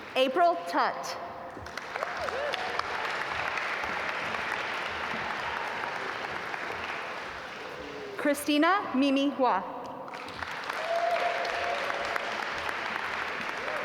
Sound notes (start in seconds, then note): 1.6 audience applaud; 10.1 audience applaud